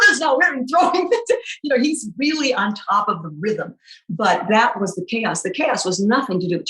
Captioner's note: laughing